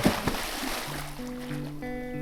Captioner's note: splash